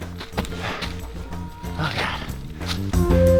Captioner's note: breathless